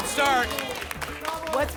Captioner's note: applause and cheering